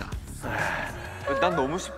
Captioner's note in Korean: 깊은 한숨